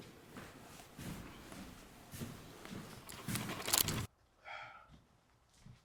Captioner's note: camera shuffles